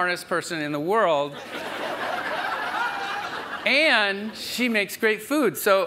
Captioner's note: audience laughs